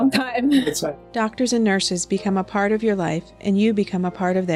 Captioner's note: voiceover